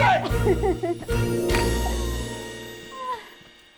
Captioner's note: claps